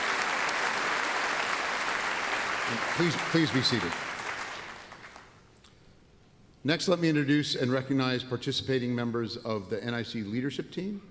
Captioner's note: applause and cheers